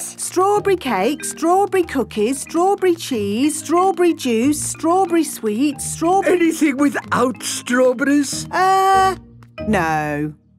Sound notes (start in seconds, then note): none